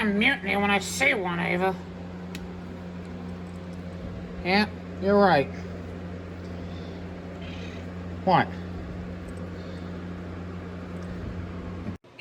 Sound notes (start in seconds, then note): 7.3 Caprice meowing